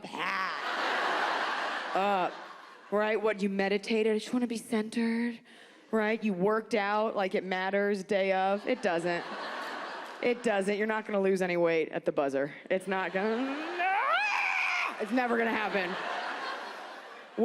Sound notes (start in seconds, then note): 0.3 audience laughs; 8.6 audience laughs; 13.6 screams